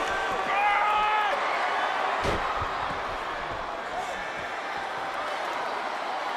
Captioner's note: applause